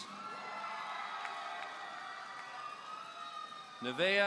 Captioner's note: audience cheering